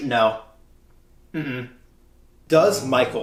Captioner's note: no noises